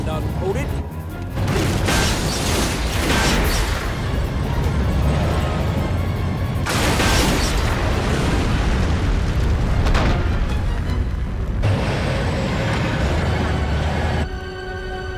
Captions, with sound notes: Come on, Dalton. Hold it. (explosions booming) (explosion booming) (tank rumbling)